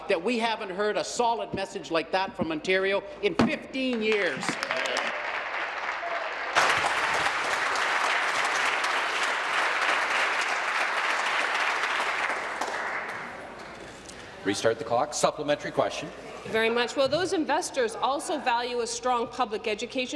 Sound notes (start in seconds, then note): 7.1 applause